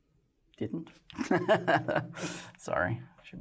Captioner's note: laughter